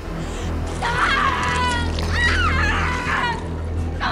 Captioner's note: flesh squelching; Christine screaming